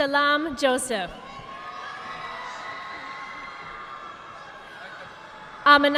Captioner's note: audience applauding